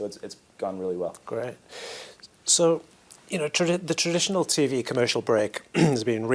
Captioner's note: cough